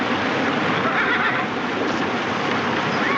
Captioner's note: horse neighing